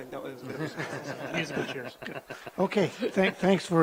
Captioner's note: chuckles